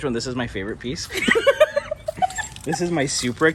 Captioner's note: both laughs